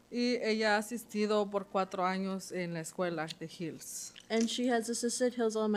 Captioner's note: speaking Spanish